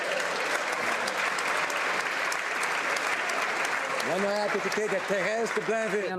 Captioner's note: speaking spanish; applause